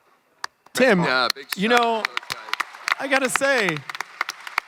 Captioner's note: crowd clapping